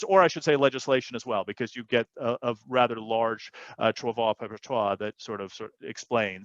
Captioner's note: non-english speech